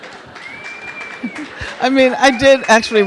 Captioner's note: audience laughing; audience members cheering; audience member whistles